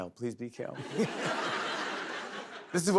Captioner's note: laughter